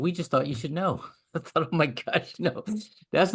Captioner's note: laugh